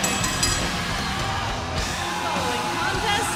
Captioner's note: bell ringing